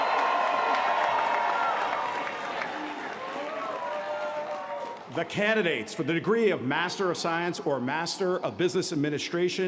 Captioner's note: cheers & applause